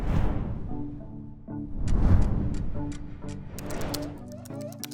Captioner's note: air whooshing